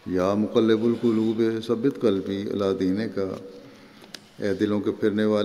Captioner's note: Arabic